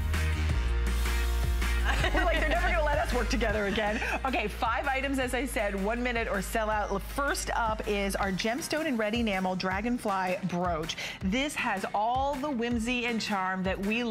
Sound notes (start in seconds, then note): 1.8 laughter